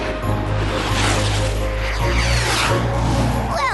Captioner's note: whoosh